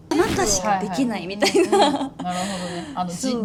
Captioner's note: laughs